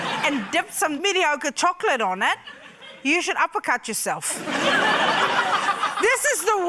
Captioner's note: laughter